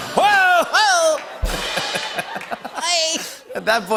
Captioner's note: laughter